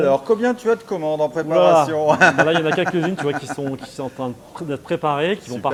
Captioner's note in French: rires